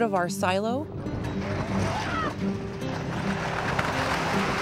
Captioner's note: metal crashing